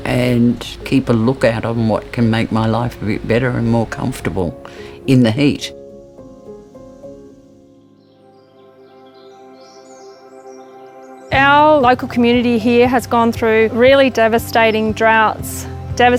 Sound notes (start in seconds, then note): 6.3 gentle music; 9.3 birds chirping